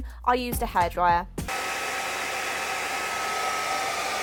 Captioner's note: hairdryer blowing loudly